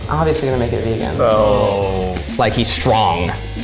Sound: both groan

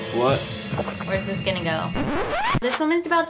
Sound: tape scratch

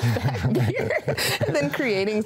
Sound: chuckles; laughs

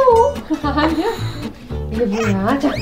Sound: laugh

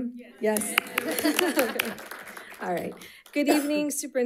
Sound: audience applauding; laughs

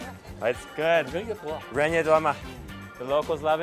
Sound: speaks in Chinese

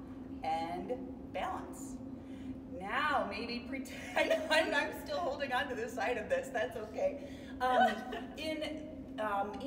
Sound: laughing

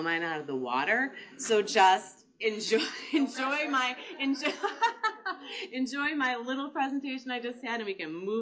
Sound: laughing

